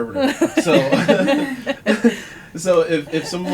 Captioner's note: laughter